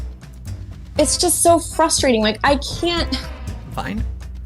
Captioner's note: sighs